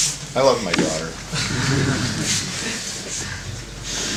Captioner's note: low laughter